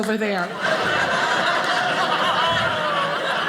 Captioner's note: audience laughing